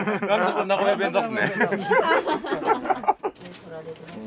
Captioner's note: laughs